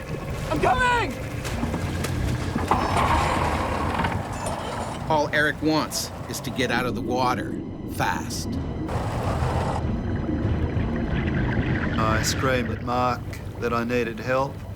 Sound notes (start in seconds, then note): 3.1 motor sputters; 5.0 voiceover